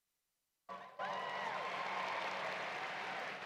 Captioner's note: applause